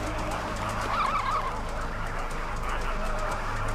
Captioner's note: anxious chitter